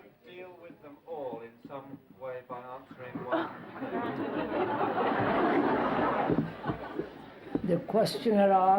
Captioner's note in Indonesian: Tertawa